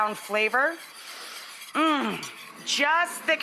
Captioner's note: sniffs